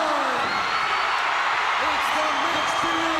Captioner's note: crowd cheers